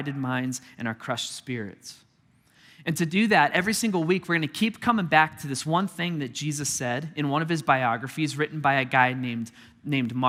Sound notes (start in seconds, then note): none